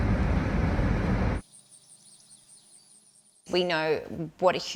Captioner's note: car engine; crickets chirping